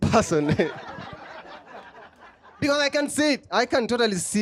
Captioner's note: laughter